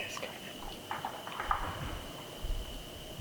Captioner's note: tree crashing nearby